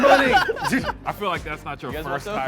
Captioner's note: men laugh